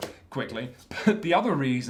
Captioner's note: chuckle